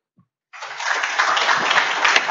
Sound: applause

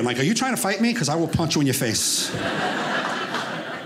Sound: audience laughing

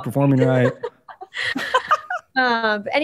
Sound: laughter

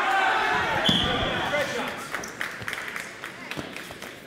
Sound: whistle blows

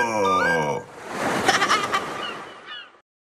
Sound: plays his nose like a flute; the seagulls are heard again as the song ends

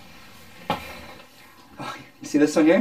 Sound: thud

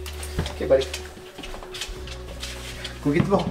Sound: rustling

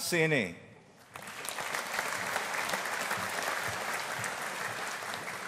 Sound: audience applauding

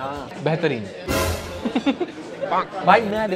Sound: laughing

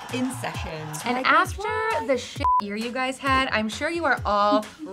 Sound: beep

